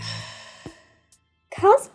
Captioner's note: sigh